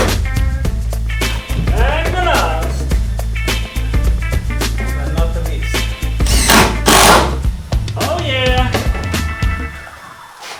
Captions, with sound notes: and the last, but not the least [Drilling] Oh yeah!